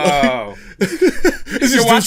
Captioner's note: laughs